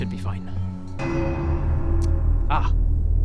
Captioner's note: not-fine bell